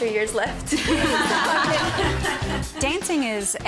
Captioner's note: laughter